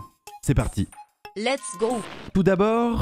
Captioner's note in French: voix automatique féminine